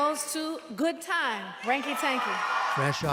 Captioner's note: cheering and applause